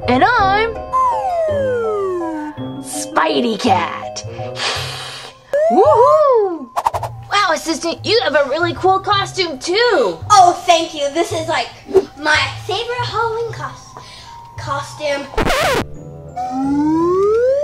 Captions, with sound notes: - And I'm spidey cat (spideycat hisses) - Wow Assistant, you have a really cool costume too. - Oh, thank you. This is my favorite Halloween costume.